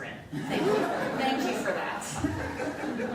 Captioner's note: laughter